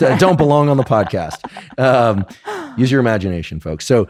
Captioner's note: laughs